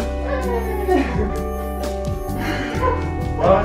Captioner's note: cries